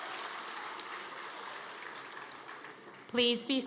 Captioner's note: cheering